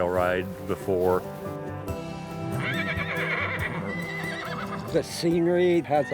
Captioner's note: horses whinny